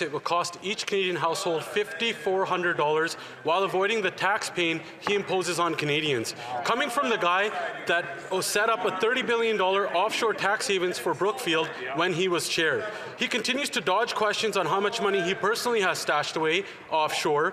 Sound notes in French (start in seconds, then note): 4.5 voix de l'interprète